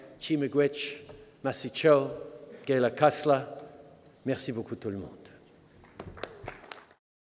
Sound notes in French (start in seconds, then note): 5.8 Applaudissements